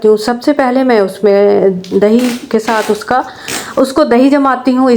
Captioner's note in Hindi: नाक से की जाने वाली आवाज़